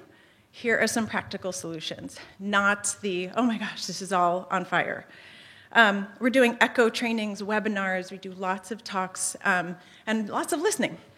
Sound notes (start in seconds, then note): none